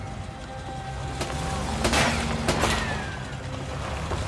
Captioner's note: gunshots ricochet